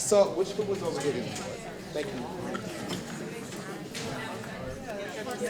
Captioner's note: audience chattering